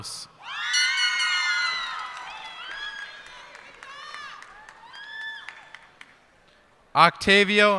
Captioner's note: cheers and applause